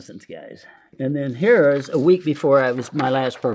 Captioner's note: paper crinkling